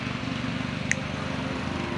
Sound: finger snaps

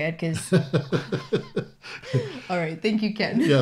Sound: both laugh

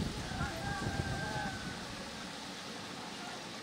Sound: rooster crows

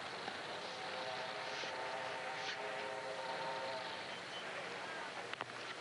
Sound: distant train horn blowing

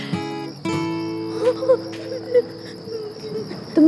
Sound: cries

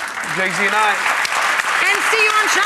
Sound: audience applauds

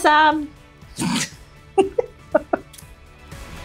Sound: both laughing

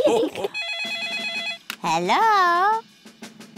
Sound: all laugh; phone rings

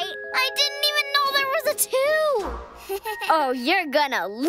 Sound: nervous laugh

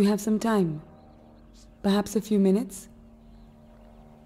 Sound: airplane engine roaring

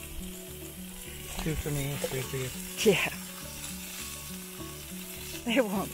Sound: sarcastically

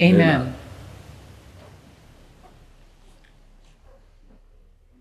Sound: footsteps clomping

